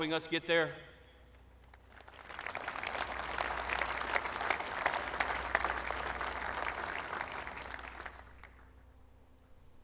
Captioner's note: applause